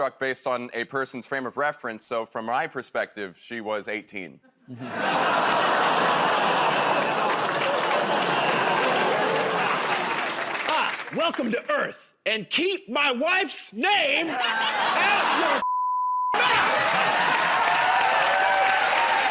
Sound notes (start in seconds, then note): 6.0 audience groans